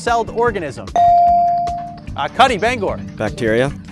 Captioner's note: bell dings